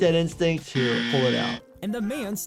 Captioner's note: buzzer buzzing